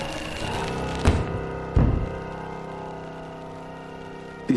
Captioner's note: door thudding